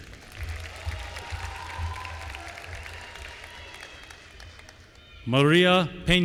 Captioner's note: applause